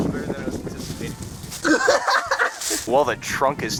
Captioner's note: laughter